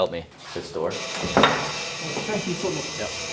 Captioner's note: door buzzing